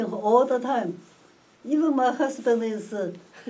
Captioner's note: whispers